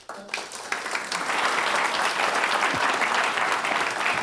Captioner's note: audience applauds